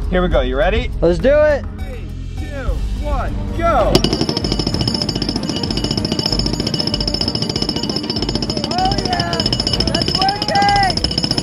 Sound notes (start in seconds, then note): 3.9 metallic clanging; 5.4 suspenseful music